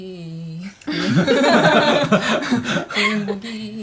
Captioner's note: ha ha ha